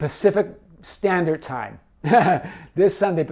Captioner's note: chuckling